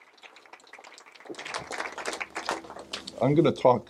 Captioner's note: audience applause